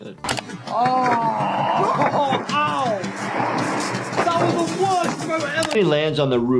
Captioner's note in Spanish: exclamando